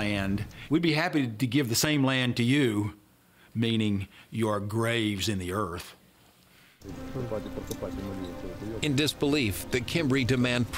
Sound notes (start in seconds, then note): 5.9 non-english speech